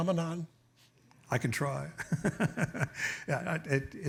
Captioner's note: laughs